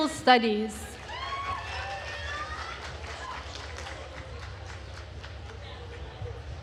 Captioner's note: attendees cheering and applauding